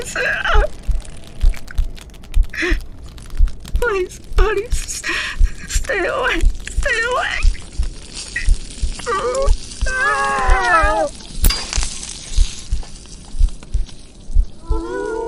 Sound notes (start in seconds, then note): 8.1 ripping, tearing sounds as she turns; 14.6 howl